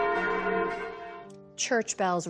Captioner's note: bells